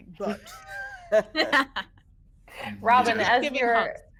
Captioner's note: people laughing